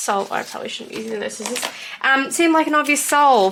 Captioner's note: panics